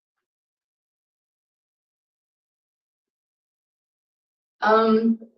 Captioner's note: silence